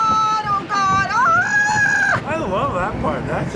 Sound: screams

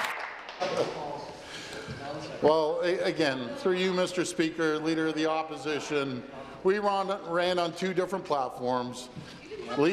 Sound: applause

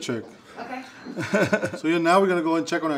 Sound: laughs

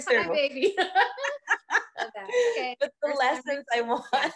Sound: both laughing

